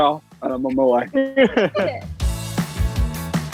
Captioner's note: all laughing; upbeat music